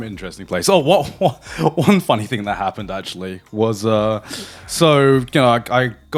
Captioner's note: laughing